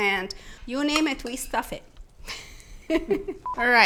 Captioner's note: chuckles